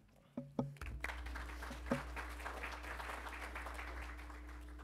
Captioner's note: attendees applauding